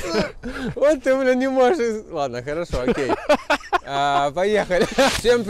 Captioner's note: laughing